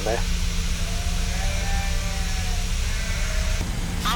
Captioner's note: sheep bleating